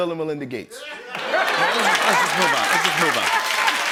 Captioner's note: laughter